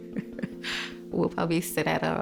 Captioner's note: chuckles